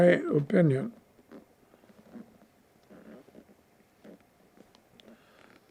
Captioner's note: pauses 6 seconds